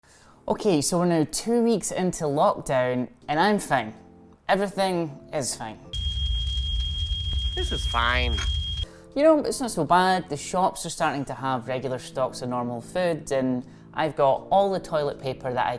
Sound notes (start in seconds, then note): 5.9 smoke alarm ringing